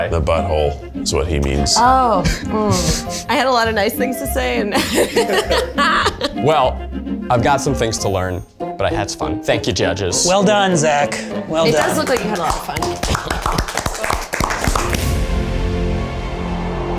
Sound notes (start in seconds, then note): 4.6 she laughs